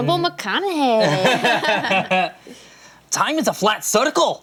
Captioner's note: laughter